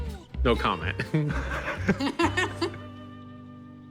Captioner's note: laughter